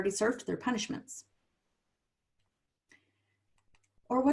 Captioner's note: silence